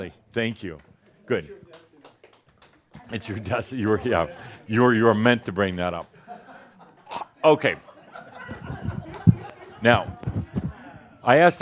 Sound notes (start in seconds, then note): 7.0 gag!; 7.6 more chuckles